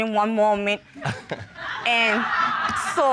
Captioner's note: chuckles